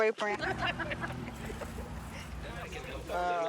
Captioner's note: laughing